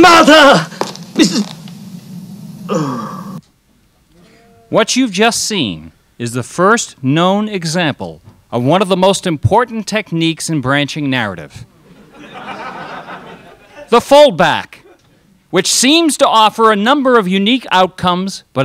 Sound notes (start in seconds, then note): 2.6 sighs; 11.8 crowd laughs